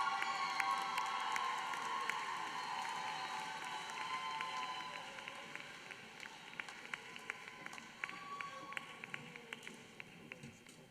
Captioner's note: applause